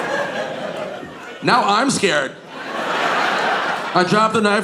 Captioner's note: audience laughing